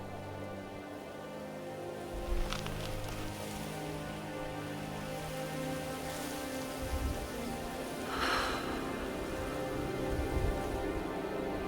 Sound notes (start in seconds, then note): 8.0 sighs